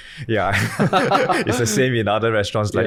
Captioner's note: laughing